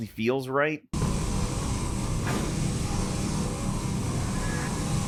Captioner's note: electricity crackling